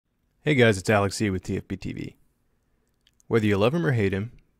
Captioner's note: voiceover